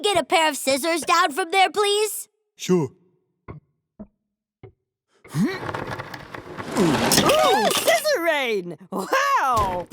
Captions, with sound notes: a pair of scissors down from there please? - Sure. (grunts) (clanging) - Ooh, scissor rain, wow.